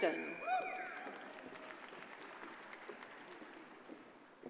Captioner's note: audience applauds